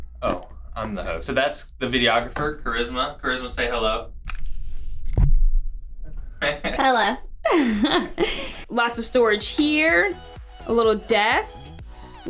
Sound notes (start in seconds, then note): 7.5 laughs